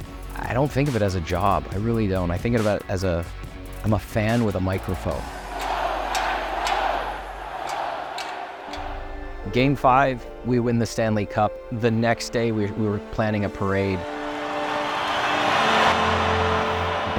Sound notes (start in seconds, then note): 6.2 chanting Go Knights Go!